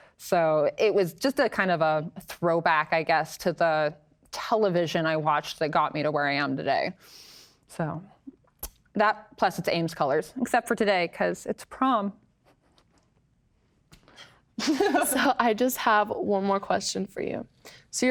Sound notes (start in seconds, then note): 14.3 laughs